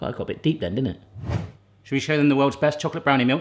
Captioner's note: air whooshing